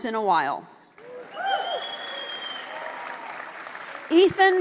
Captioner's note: applause